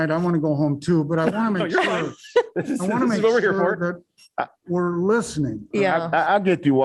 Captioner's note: laughter